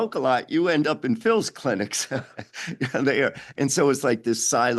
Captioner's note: chuckles